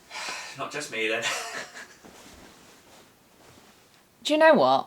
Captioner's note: both laugh